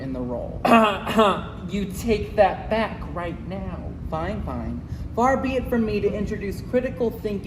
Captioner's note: cough